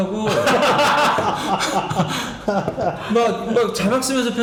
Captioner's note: laughing